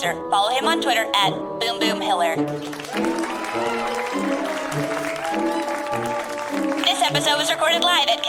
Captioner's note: clapping and cheering picks up